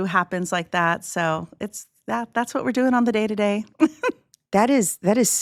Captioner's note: chuckles